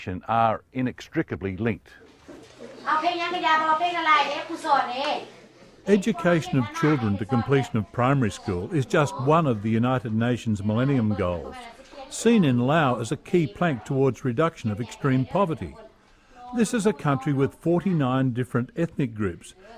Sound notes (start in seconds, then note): 2.6 teacher speaks in local language